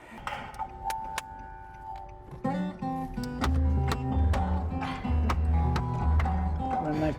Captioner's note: claps; taps dashboard